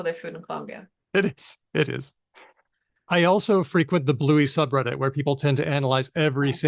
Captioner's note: laughs